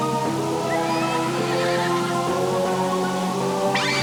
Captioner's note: whinnying